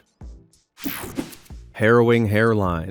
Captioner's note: scene change whirs